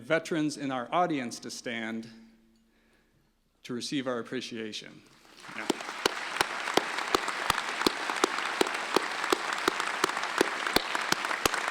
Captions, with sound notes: And the veterans in our audience to stand to receive our appreciation. (applause)